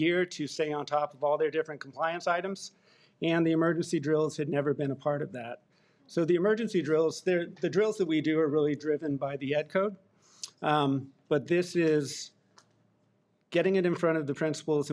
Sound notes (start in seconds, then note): none